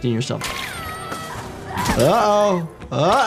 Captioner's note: Lily Lovebraids screaming